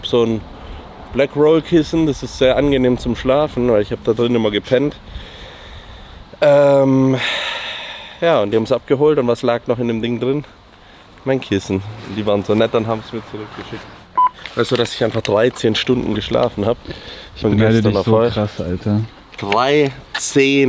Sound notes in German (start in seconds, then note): 7.0 seufzt; 7.2 japst